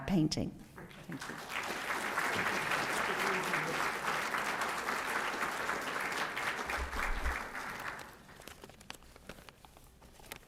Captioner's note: applause